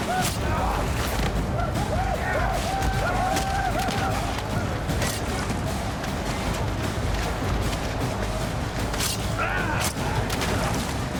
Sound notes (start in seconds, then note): 0.0 grunting; 3.8 men whooping